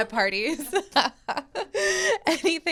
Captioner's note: laughter